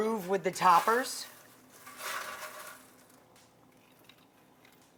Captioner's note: chips crunch